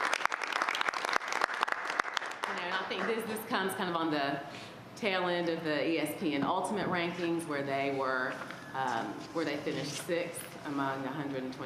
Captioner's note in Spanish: aplausos